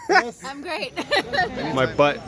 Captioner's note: laughs